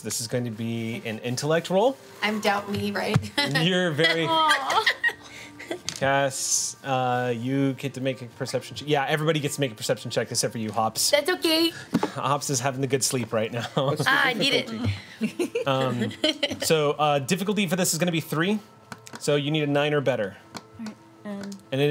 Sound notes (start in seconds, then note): 3.9 group laughs; 4.0 laughs